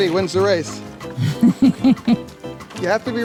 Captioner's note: camera operator laughs